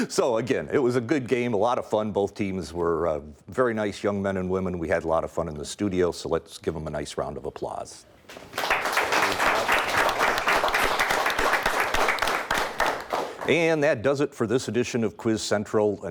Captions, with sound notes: So again, it was a good game, a lot of fun, both teams were very nice young men and women, we had a lot of fun in the studio so let's give them a nice round of applause. (audience applauds) And that does it for this edition of Quiz Central.